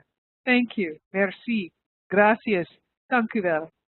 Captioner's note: speaks in foreign language